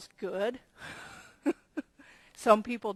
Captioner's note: laughing softly